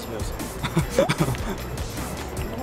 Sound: hehe

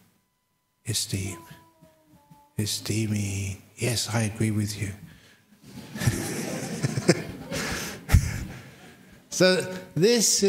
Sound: laughter

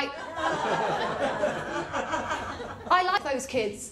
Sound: laughter

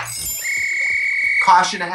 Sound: Katya laughs; whistle blows

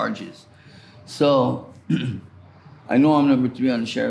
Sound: clears throat

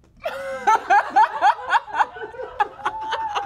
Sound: laughs

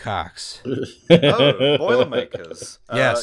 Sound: puerile laughter

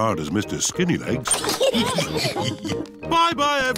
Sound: all laugh

